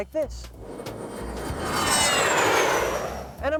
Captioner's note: airplane engine roars